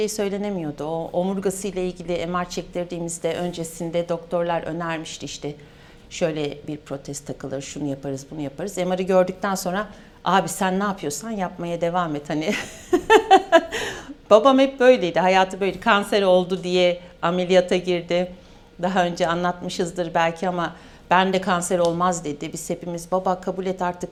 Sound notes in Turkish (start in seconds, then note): 12.4 kahkaha